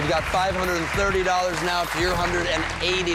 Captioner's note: cheers and applause